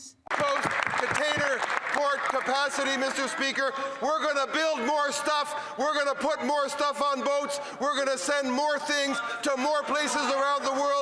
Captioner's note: speaking French